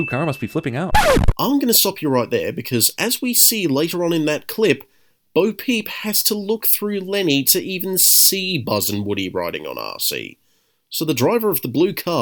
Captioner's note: record scratch